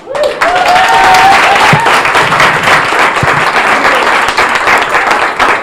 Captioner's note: audience cheering and applauding